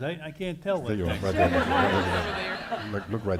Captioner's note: audience laughing